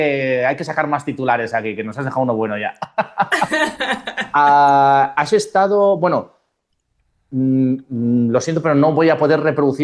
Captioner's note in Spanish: risas